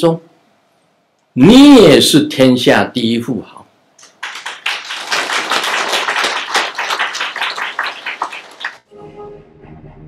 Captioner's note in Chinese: 眾鼓掌